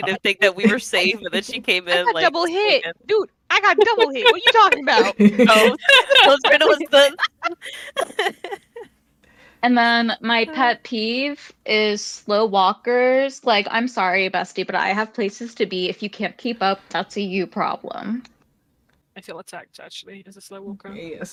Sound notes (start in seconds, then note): 8.1 laughter